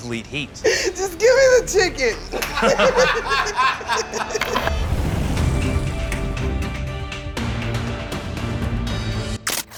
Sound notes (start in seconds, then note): 2.3 laughter